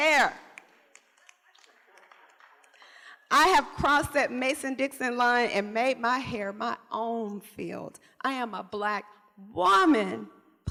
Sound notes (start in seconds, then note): 1.9 laughter